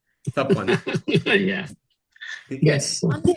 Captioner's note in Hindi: हंसी